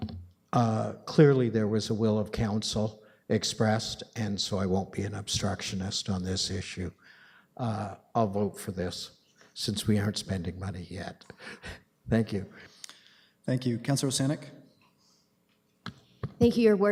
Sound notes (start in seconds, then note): 11.4 chuckles